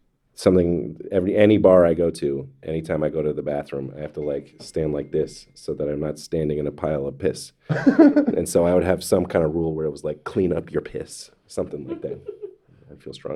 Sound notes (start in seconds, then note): 7.7 Neil laughs